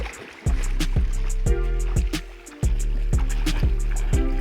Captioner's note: water rushing